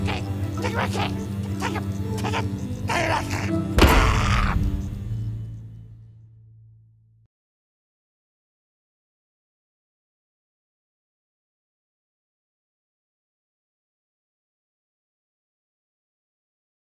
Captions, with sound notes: Take my king! Take my king! Take it! Take it! Take my king! [GRUNTING]